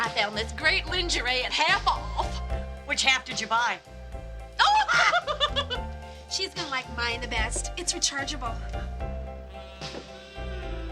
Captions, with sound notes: I found this great lingerie at half off! - Which half did you buy? (laughing)